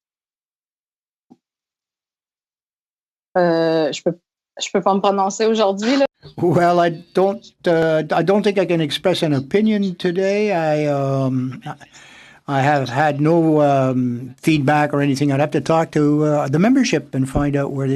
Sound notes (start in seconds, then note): 8.4 speaking French